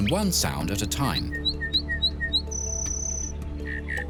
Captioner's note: bird sings